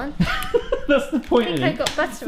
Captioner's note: laughs